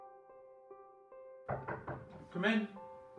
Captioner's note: piano music; knock on door